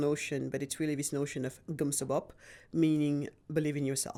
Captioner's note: speaking in foreign language